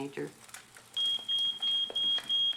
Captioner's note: smoke detector beeping